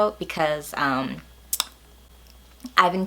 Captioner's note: smacks lips